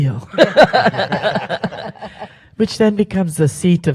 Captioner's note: panel laughs